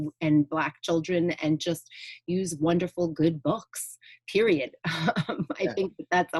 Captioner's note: chuckling